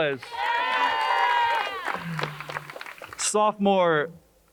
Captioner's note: crowd cheers and applauds